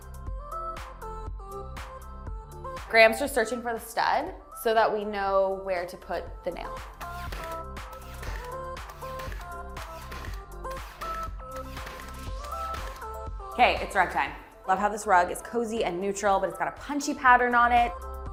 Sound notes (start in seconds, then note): 0.1 upbeat music; 7.4 upbeat music; 7.9 mechanical noise